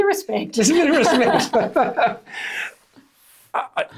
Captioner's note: laughs